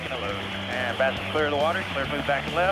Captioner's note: man On Radio